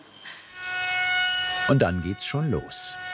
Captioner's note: drilling noises